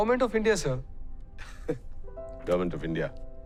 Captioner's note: giggling